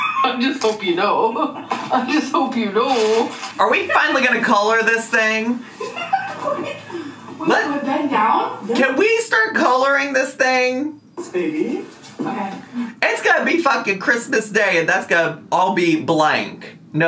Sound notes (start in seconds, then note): 5.7 laughing